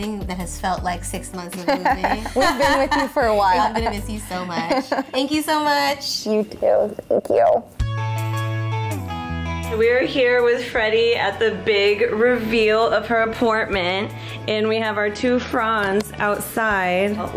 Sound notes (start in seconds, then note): 1.7 laughs; 7.9 upbeat music